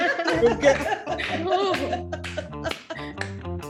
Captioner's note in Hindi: ताली बजते हुए